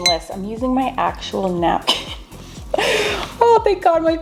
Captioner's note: laughs